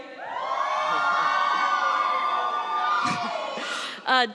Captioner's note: cheering